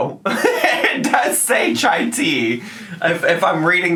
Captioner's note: laughs